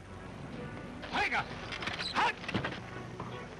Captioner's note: calling to horses